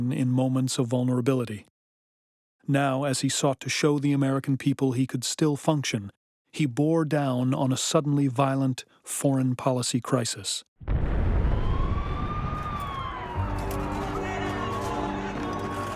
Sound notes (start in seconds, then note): 10.8 explosion, sirens wailing